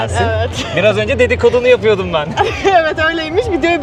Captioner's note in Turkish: kahkaha